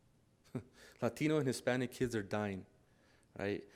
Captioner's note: chuckles